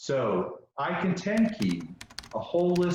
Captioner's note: typing on keyboard